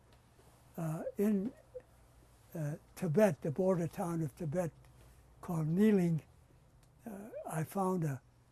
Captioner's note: non-english